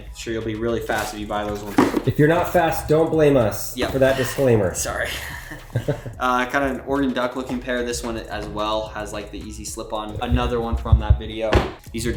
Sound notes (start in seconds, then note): 4.8 chuckles